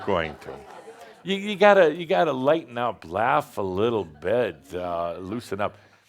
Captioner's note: more chuckles